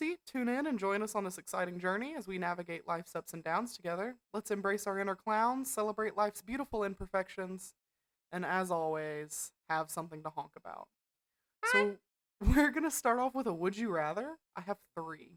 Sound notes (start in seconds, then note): 11.6 clown honk